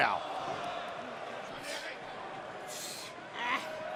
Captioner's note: crowd chatter